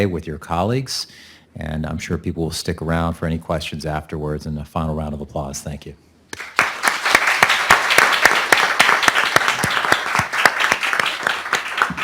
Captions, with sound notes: with your colleagues, and I'm sure people will stick around for any questions afterwards and the final round of applause. Thank you. (audience clapping)